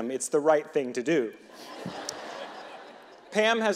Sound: audience laughing

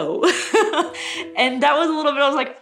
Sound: laughing

